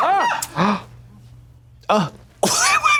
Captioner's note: people screaming; Trixie gasps